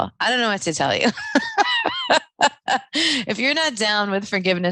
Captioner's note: laughing